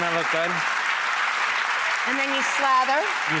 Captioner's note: audience clapping